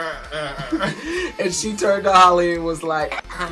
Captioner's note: modified voice